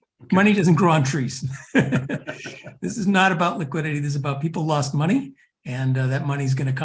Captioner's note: laugh